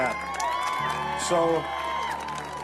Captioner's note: audience cheers